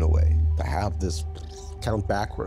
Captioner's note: blowing raspberry